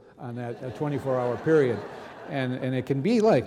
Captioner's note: audience laughing